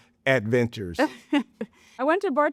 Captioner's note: chuckles